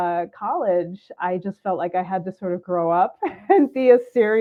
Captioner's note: laughs